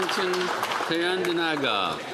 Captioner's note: applause